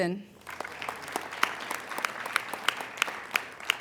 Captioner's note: applauding